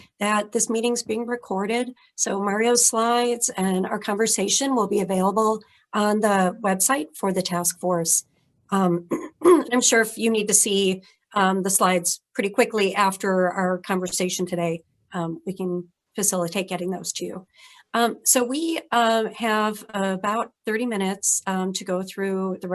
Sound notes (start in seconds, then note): 9.1 clears throat